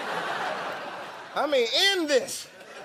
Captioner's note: laughter